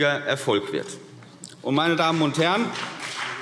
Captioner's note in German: Beifall CDU und BÜNDNIS 90/DIE GRÜNEN